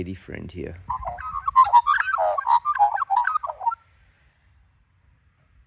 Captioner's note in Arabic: العقعق تغني